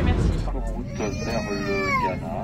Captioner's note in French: Bébé qui pleure